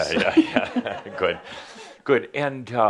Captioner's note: some chuckles